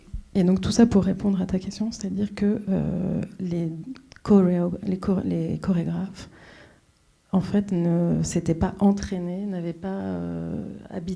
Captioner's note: speaking French